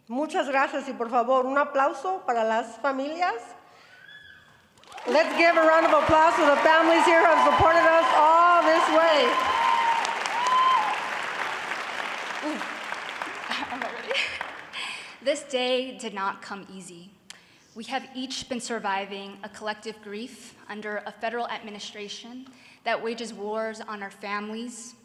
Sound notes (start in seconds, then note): 9.2 applause